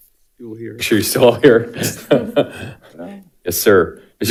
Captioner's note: laughs